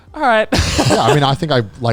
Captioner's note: laughs